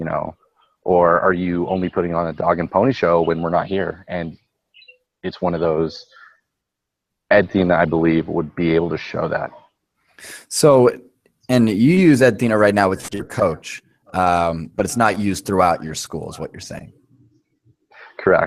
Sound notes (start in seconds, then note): 10.4 voiceover